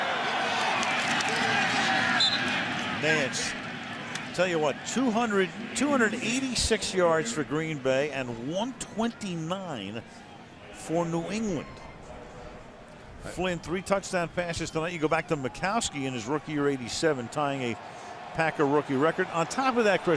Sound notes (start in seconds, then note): 2.0 whistle